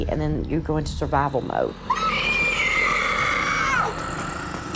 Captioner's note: Candace Re-Enactor screaming